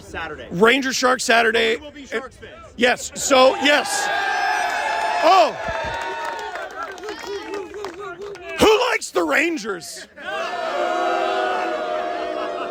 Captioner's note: crowd boos, angrily